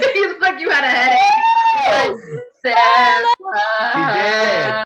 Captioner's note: laughs; overlapping chatter